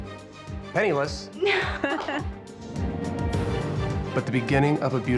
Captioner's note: laughing